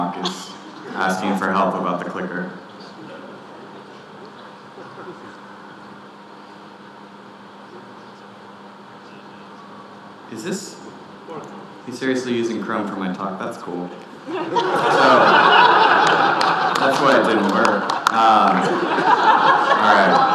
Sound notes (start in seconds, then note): 14.2 audience laughing